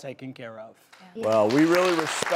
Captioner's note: applause